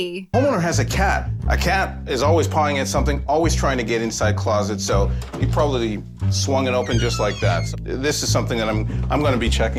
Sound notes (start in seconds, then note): 6.5 door creaks